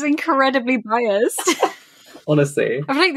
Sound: laughs

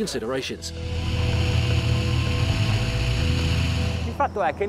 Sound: engine whirring

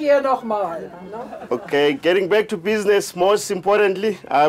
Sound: laughs

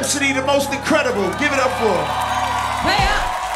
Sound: cheering and applause

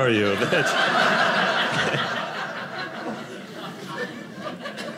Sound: audience laughing

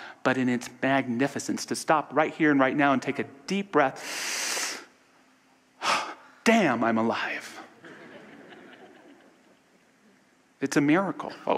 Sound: audience laughter

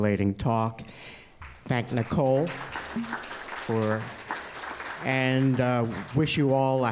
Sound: applause

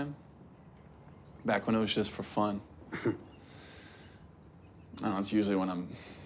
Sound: Rufus chuckles

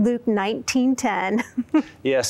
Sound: laughter

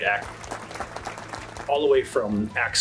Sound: crowd clapping

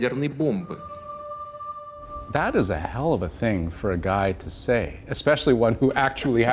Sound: speaking russian

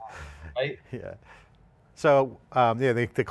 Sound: laughing

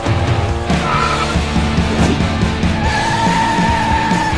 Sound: tires screeching

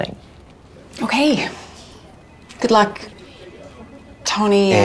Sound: phone ringing

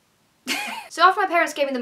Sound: laughs

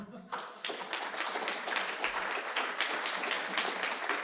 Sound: audience clapping

